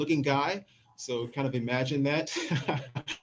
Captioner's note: laughs